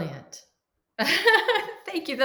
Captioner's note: laughing